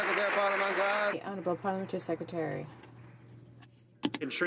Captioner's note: some Applause